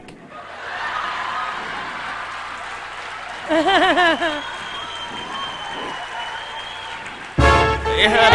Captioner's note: giggling